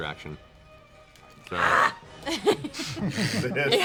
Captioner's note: snarls frustratedly